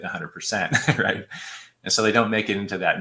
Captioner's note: laughter